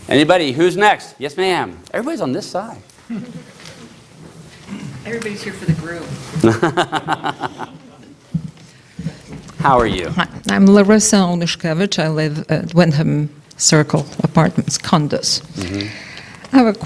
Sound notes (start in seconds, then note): 6.4 laughter